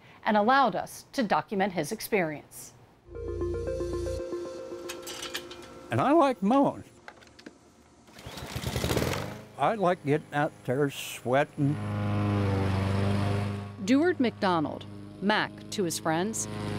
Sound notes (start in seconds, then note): 3.0 bright music; 8.4 motor rumbles